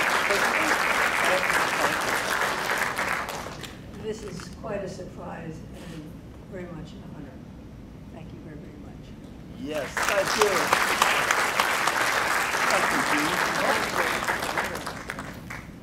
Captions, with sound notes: Want to say something? - This is quite a surprise and very much an honor. Thank you very very much. - Yes, thank you. (crowd clapping) Thank you Jean.